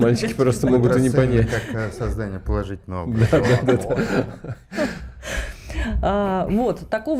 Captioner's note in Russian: смех